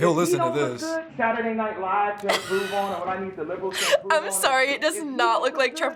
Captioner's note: laughs